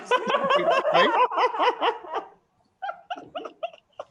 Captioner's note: panel laughing